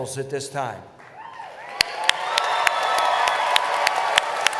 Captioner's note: cheering